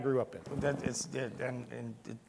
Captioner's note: stammering